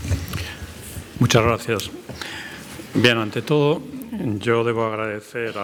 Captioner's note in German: spanisch